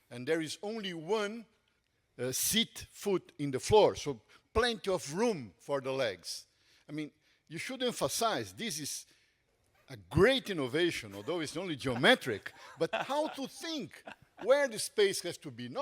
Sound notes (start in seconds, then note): 11.1 panelists laughing